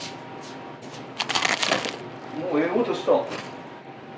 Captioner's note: bread nibbling